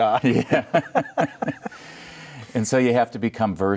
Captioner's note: laughing